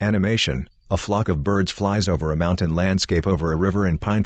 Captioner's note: birds chirping